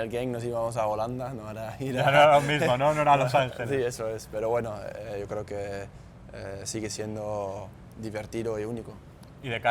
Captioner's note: laughs